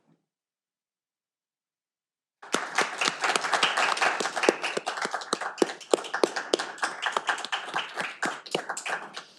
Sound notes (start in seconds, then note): 2.4 audience applauding